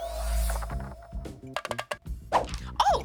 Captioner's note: rattling